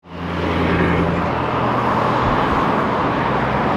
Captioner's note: traffic droning